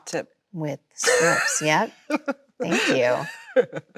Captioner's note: Chloe laughs